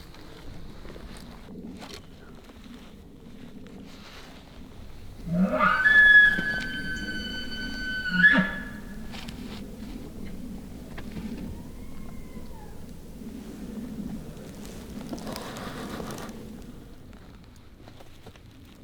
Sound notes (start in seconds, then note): 5.1 caller bugling; 11.1 elk bugling